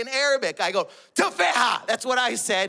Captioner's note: speaks in Arabic